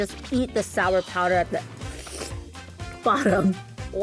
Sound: slurping

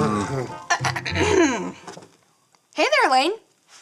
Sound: clears throat

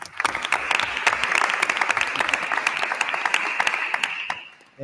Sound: attendees applauding

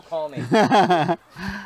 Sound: laughing

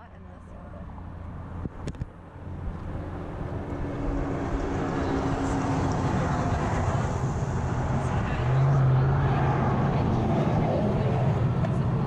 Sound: noise of cars passing on highway

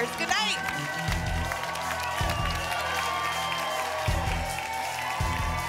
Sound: applause and cheering cont

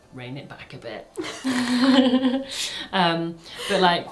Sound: both laughing

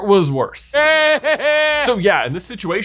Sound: Voldemort laughs

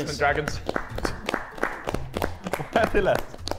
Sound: Sidemen applauding

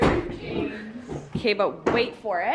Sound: table thudding

